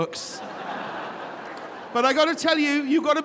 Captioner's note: audience laughing